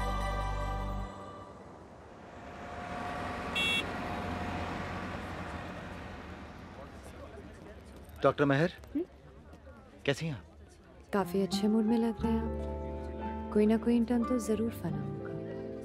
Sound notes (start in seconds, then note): 3.2 Car honks